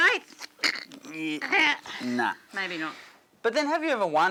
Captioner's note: grunts